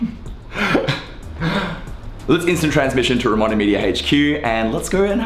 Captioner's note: laughs